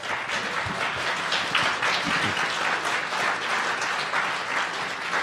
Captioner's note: audience applauding